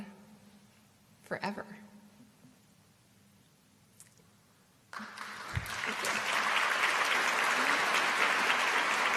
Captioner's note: applause